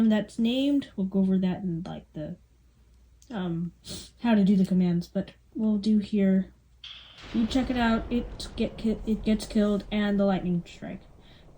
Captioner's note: stutters